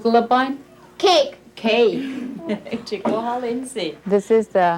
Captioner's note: speaking Passamaquoddy; speaking Passamaquoddy